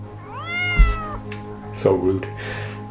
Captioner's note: cat meowing